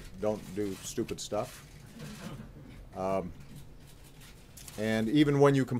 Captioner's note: laughter